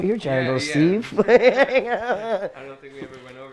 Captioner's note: laughing